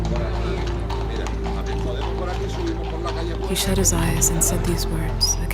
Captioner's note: hooves clacking; voice speaks in Spanish